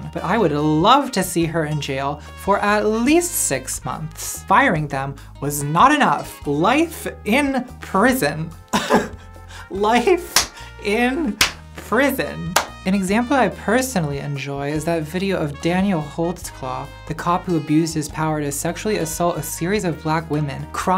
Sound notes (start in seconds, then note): 9.0 laughs; 12.5 clap